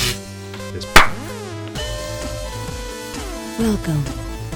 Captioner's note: glass breaking; popping sound